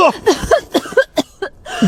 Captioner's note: cough, cough, cough